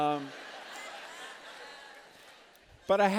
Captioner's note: laughter